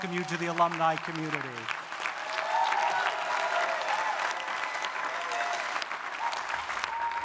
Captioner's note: audience applauding; audience cheering